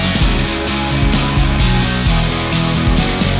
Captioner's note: both laughing